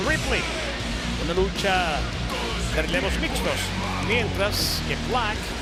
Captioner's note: commentator speaking Spanish